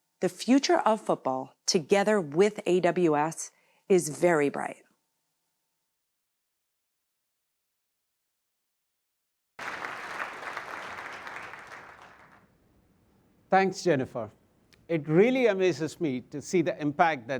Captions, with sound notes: the future of football together with AWS is very bright. [applause] Thanks, Jennifer. It really amazes me to see the impact